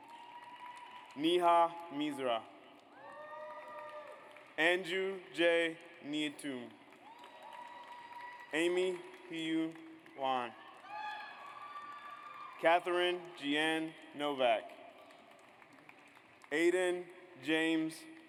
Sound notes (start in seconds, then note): 0.0 audience applauds; 7.3 audience applauds; 11.1 audience applauds; 15.2 audience applauds